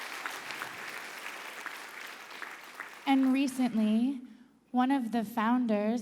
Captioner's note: applause